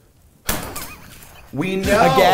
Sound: thud

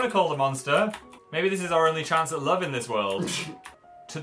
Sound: laughs

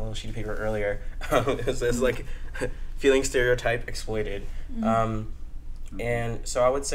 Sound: laughs

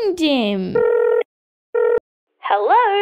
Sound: ringing

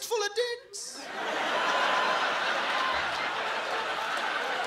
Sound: laughter

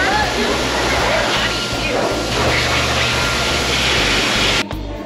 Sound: dryer whooshes

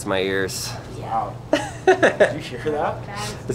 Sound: host laughs

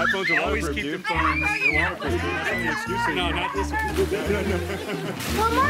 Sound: kids screaming

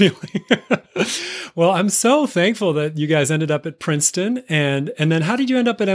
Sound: chuckle

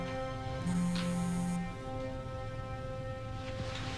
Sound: cellphone vibrates

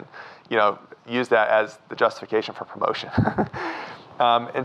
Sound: laughs

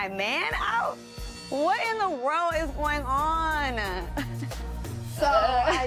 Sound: chuckles

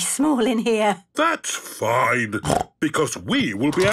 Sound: snorts

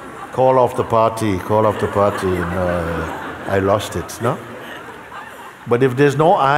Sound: laughter

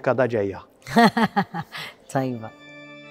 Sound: chuckles

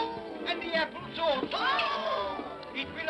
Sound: excited vocal sounds; excited vocal sounds

